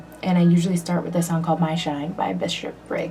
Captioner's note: none